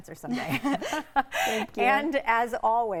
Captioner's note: both laughing